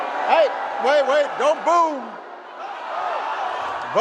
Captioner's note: booing